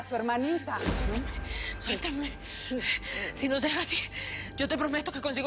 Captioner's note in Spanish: Jadeando